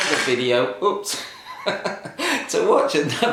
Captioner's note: laughs